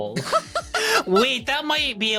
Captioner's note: laughs